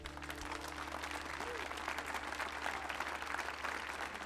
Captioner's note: audience applauding